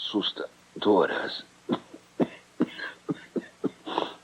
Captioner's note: grunting